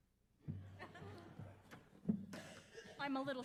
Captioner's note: audience laughs